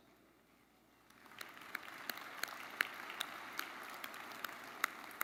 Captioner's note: audience applauding